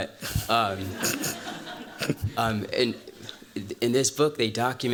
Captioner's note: laughter